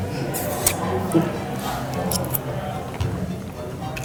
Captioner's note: puckering kiss